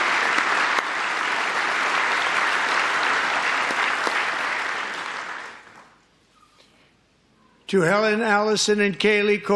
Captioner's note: applause